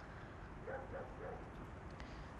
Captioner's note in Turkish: Köpek havlama sesi